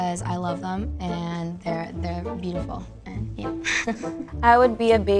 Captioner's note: laughs